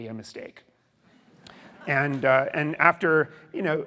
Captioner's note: audience laughing